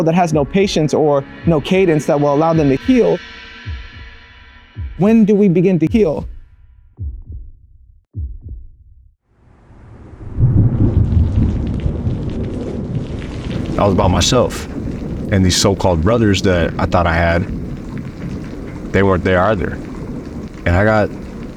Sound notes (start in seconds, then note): 10.4 thunder; 11.8 rain dropping